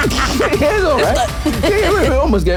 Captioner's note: laughing